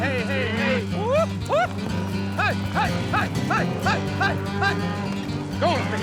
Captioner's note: whooping, shouting